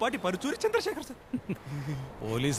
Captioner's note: Chuckles